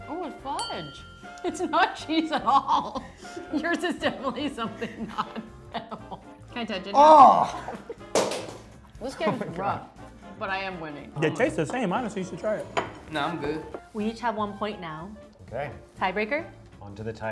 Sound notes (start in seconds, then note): 2.2 laughing; 6.9 groans in disgust